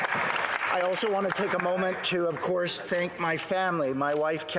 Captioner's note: some Applause